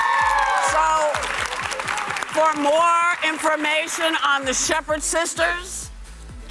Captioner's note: cheers and applause